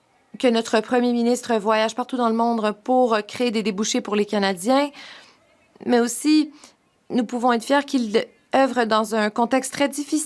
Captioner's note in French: voix de l'interprète